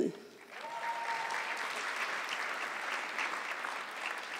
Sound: audience clapping

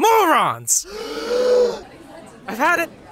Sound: crowd gasps

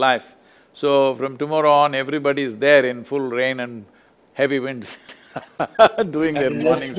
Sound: laughter

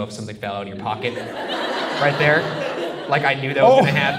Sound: audience laughs

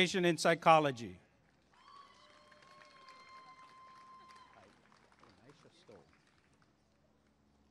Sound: applause and cheering

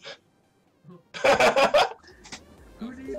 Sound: laughs

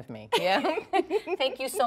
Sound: laughter

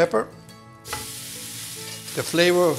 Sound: pan sizzles

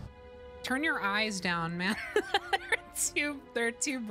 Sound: laughter

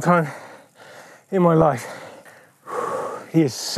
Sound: deep mouth exhalation

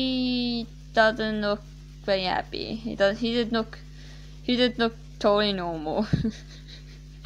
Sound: nervous laughs

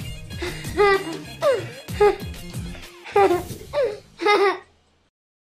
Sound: laughing

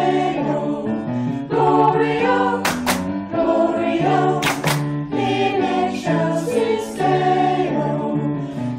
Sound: clap-clap

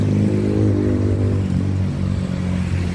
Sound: motorcycle exhaust sound

